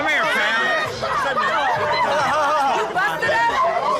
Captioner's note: shouting